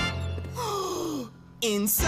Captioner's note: gasping